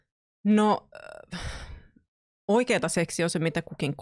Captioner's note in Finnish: huokaa